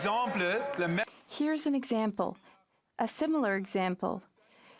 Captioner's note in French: voix de l'interprète